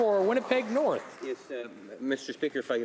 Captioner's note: applause